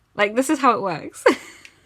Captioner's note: laughs